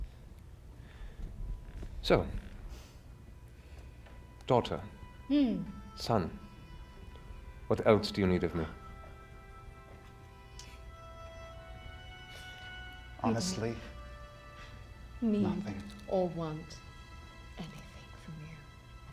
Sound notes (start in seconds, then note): none